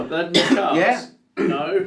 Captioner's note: coughing